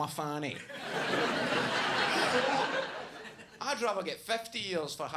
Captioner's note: audience laughs